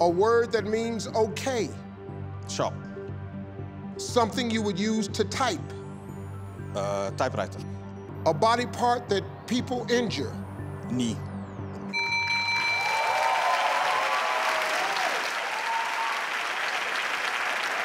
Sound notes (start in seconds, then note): 11.9 bell dings; 12.2 audience applauds